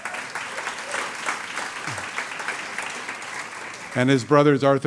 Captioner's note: audience applauds